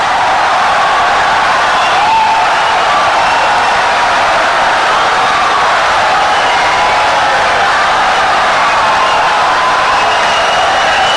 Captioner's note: wild applause and cheering for 17 seconds